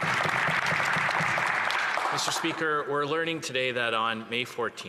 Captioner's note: applause